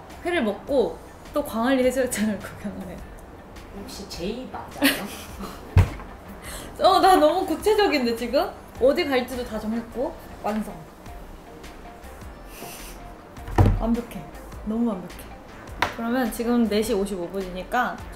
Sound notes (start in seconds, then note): 4.8 laughing